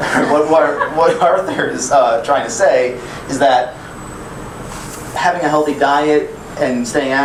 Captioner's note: laughing